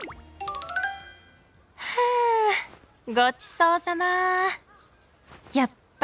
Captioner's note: sigh